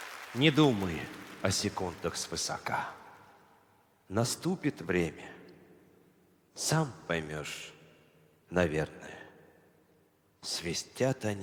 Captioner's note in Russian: аплодисменты